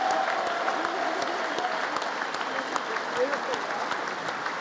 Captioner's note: congress applauding